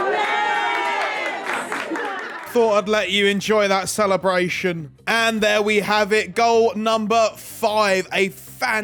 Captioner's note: applause